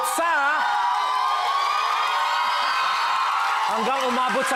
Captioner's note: audience screams, applauds